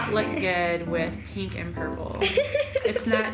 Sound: laughs

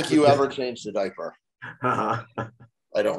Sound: chuckling

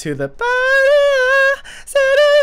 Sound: inhale

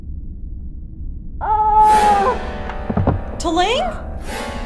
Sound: T'Ling howling in pain, body hits floor; knocking

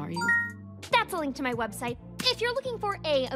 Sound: chimes

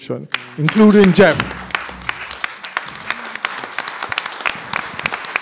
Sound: applause

